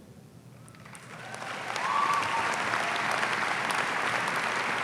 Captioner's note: audience applauding